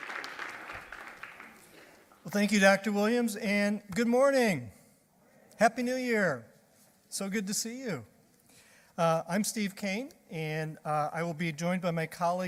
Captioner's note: applause